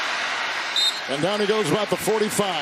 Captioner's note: whistle blowing